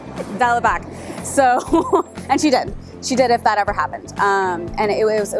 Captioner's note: giggles